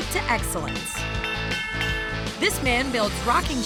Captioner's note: ding ding ding